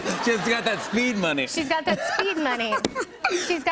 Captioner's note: laughs